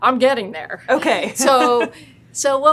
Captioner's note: laughs